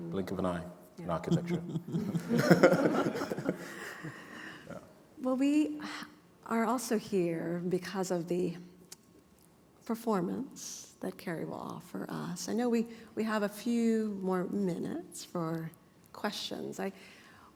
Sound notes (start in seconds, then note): 1.3 laughter